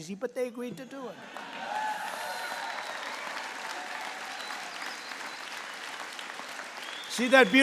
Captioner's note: applause